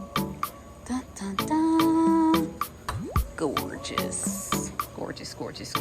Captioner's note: speaker humming